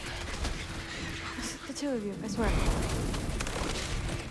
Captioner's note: laugh